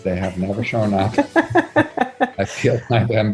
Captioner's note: laughs